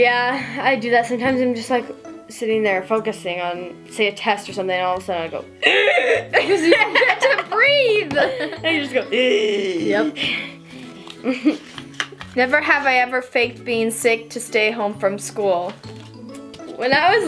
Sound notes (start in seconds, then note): 5.6 heavy breathing; 9.1 heavy breathing